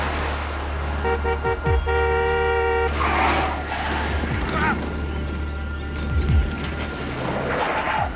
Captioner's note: horn honking; tires squealing